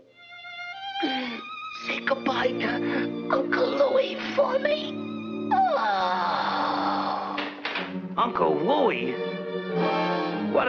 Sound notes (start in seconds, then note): 0.3 somber music; 1.0 gasps; 5.6 Bugs Bunny sighs; 9.4 dramatic music